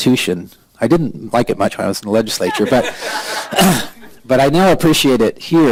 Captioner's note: laughter